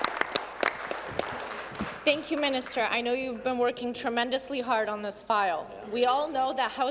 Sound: applause

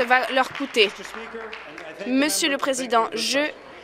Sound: applause

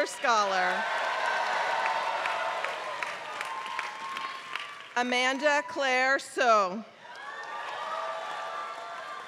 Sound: applause; applause

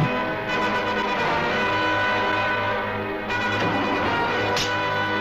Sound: engine sound

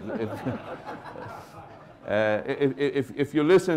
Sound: laughter

